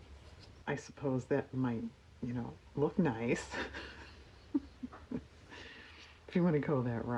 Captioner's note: laughs